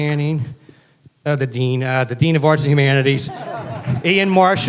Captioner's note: laughing